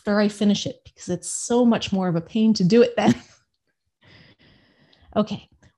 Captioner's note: laughs